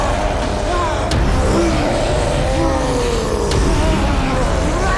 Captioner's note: doctor grunting; dramatic music